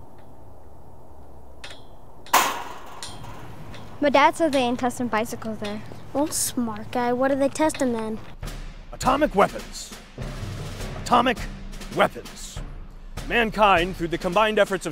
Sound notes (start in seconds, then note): 2.3 rock smacking; 9.0 military marching music